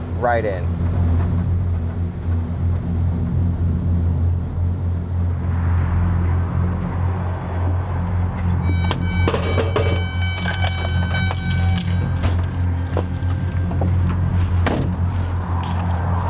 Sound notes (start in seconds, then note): 1.0 tense music; 1.0 vehicle droning; 8.2 vehicle beeping; 8.6 keys rattling; 12.6 door slamming; 12.6 tense music continues; 16.0 keys rattling; 16.0 vehicles droning